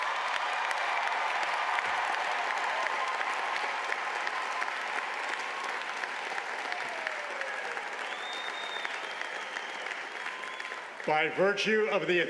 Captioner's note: cheers and applause